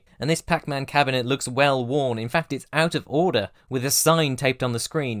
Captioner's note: none